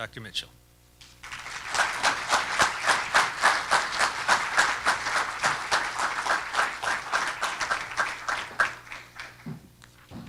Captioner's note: applause